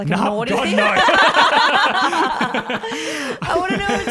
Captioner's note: all laugh